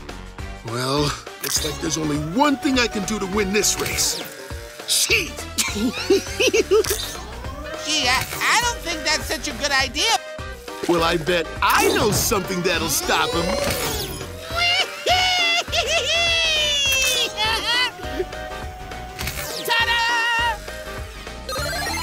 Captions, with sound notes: Well, there's only one thing I can do to win this race, cheat! [giggling] Gee, I don't think that's such a good idea. Well I bet I know something that will stop him. [laughing] Ta-da!